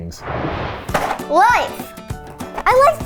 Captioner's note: animated explosion booming; cereal box thudding